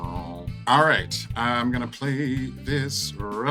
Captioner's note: synth noises; sing-song voice; regular voice